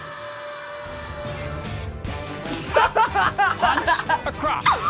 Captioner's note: laughs